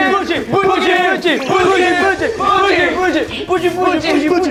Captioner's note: cheers and praise!